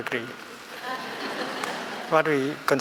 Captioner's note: laughing